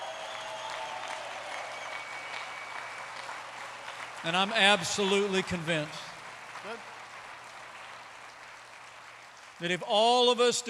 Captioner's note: applause